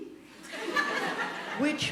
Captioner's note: audience laughing